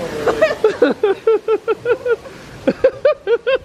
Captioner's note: laughing